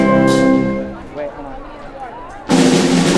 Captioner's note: chatter